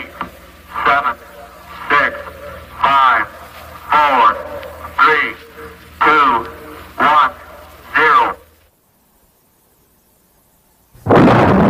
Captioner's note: boom!